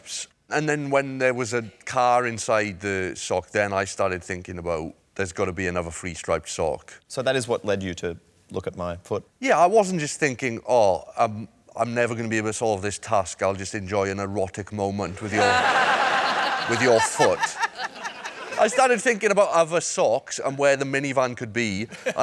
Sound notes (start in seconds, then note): 15.2 laughter